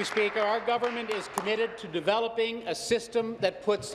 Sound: applause

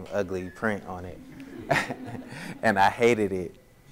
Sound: audience laughs

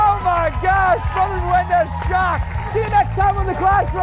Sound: cheers and applause

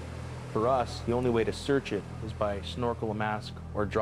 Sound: voiceover

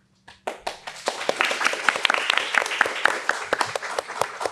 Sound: panel applauds

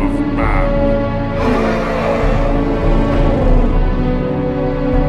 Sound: dragon roar

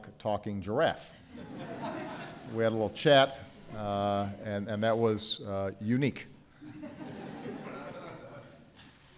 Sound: laughter

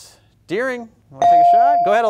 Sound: buzzer pings

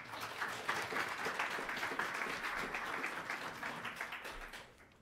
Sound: applause

